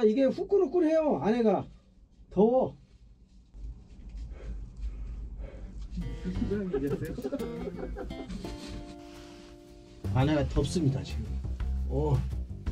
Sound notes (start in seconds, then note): 6.7 breaths